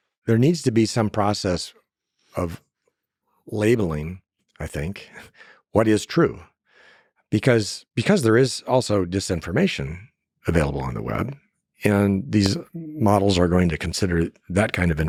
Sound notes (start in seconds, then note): 5.2 laughs